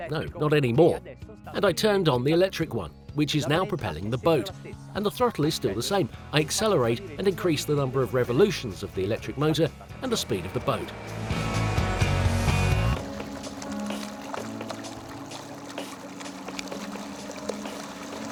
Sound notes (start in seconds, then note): 10.4 engine hums; 12.1 water splashes